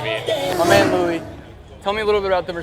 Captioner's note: car revs